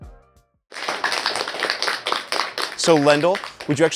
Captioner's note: audience clapping